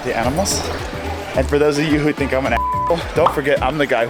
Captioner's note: beep